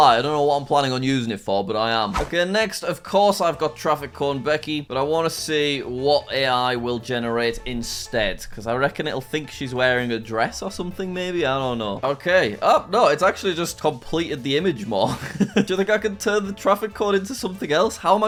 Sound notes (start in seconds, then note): 15.0 laughs